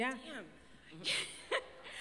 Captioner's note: laughs